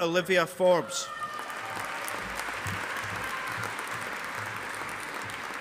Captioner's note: audience applauding